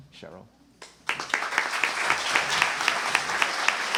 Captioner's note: applause